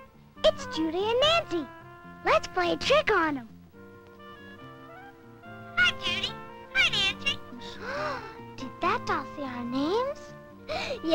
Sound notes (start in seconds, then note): 5.2 gasp!